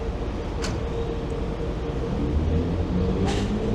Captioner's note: none